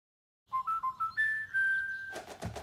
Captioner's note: whistling